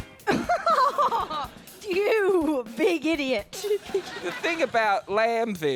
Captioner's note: laughs